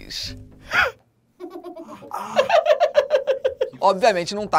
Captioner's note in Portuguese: risadas